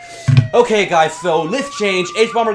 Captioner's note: siren sounds grow; hangs up